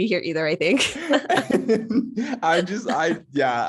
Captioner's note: both laugh